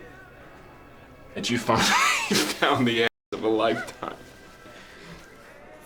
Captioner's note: chuckling